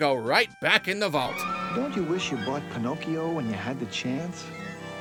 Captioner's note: commercial voiceover